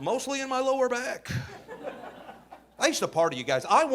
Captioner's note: audience laughing